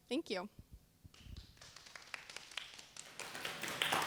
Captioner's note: applause